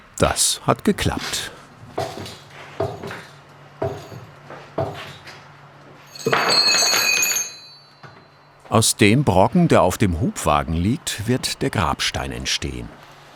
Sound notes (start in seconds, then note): 3.8 knocking noises; 6.2 metal rumble